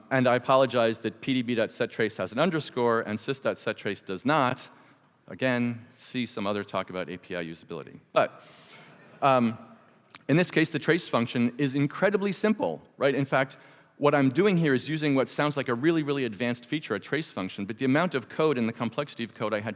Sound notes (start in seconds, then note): 8.3 audience chuckles